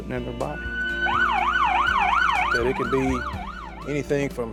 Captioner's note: siren wailing